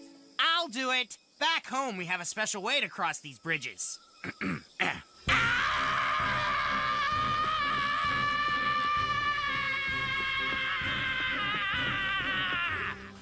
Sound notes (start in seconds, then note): 4.2 clears Throat; 5.3 Scott Screaming